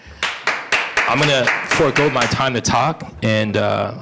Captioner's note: applause